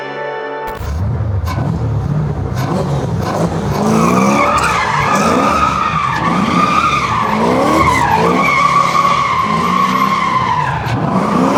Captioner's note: engine revving; tires screeching